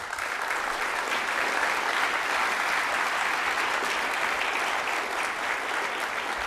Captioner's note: applause